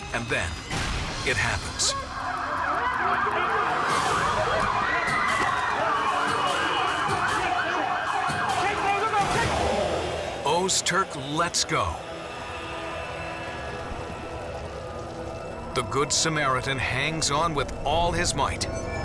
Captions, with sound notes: And then it happens. (screams) (siren) Ozturk lets go. The good Samaritan hangs on with all his might.